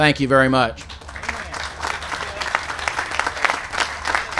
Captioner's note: applause